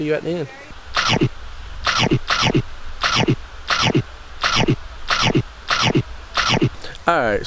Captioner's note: chomp chomp